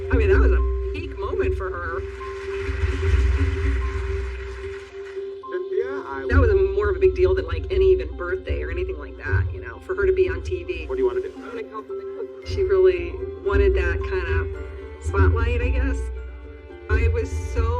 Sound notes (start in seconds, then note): 2.9 audience applause